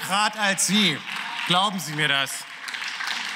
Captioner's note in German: Beifall